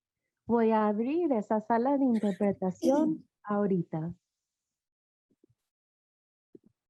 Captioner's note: interpreter speaking in Spanish